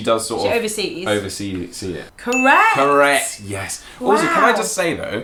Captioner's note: ding